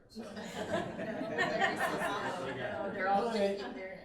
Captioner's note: all chattering